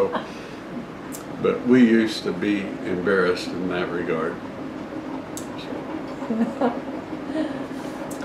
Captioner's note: laughter